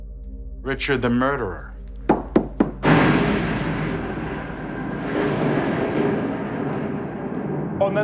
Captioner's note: slams stick